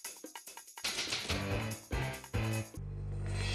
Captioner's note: typewriter clacking